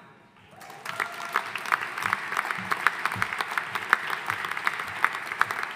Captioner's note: audience applauding